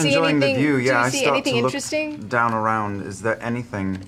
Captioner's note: none